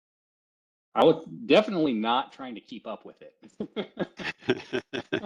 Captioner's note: laughter